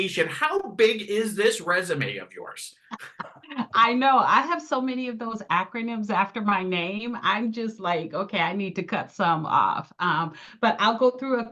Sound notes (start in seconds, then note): 2.9 haha